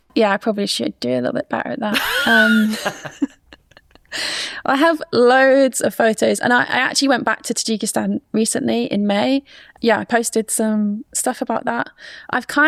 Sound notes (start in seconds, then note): 1.9 laughs